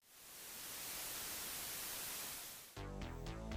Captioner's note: TV Static